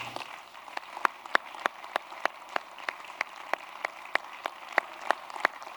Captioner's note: applause